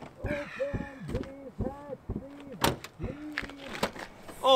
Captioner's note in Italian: altre lamentele smorzate